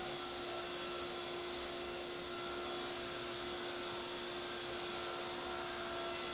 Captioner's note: table saw high-pitched buzzing